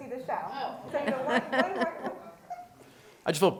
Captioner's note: laughter